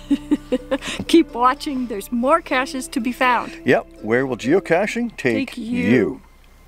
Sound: chuckles

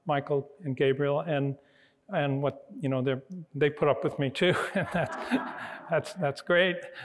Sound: laughs

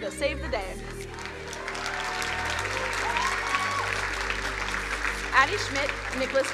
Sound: crowd cheering and applauding

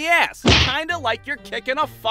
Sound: thwack!

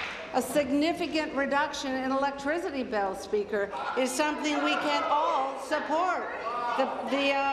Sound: applause

